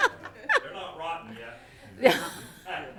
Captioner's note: people chuckling